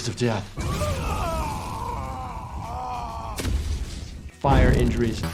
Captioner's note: fire crackling; Superman screaming